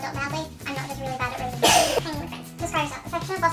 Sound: laughs

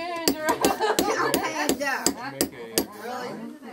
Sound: laughs

